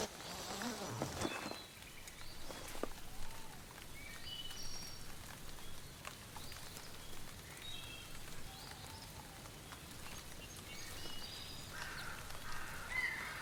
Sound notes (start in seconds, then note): 0.0 tent unzipping; 0.9 birds chirping